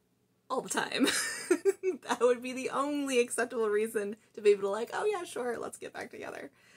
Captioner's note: laugh